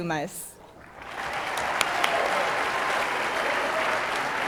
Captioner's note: audience applauding